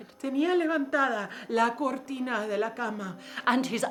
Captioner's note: speaking in foreign language